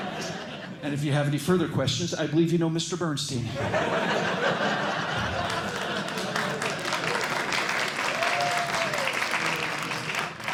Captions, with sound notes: And if you have any further questions, I believe you know Mr. Bernstein. [LAUGHTER] [APPLAUSE]